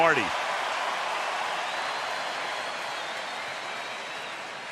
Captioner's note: cheering